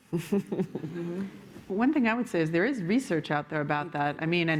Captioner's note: laughter